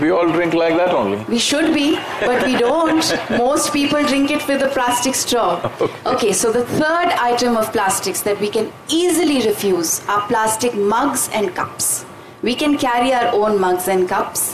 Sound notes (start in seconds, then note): 1.6 laughter; 5.4 Sadhguru laughs